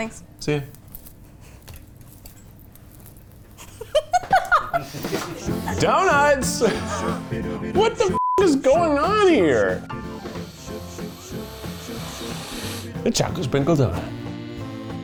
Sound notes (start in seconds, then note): 3.6 laughs